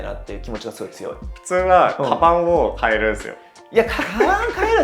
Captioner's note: laughs